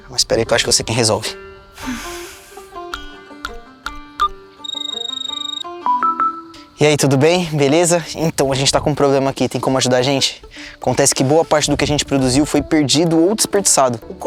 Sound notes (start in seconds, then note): 1.7 Dininha sighs; 2.8 typing; 4.6 mobile phone ringing